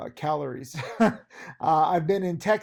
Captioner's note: laughing